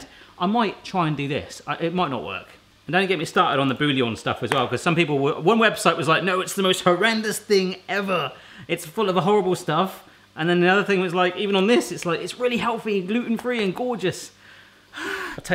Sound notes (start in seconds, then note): none